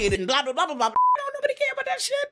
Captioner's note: beep